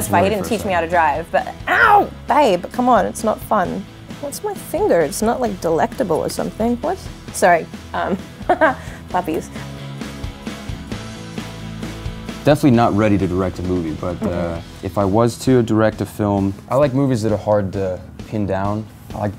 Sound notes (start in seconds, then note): 8.4 laughs; 10.1 happy rock music